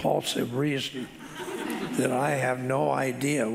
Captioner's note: audience laughing